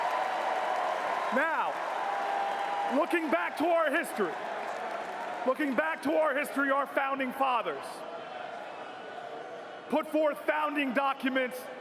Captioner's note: cheers and applause